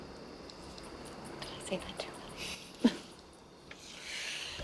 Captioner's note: whispering; laughs